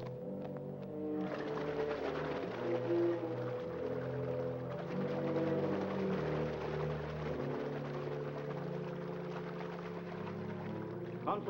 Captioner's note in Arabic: موسيقى مشؤومة; رش الماء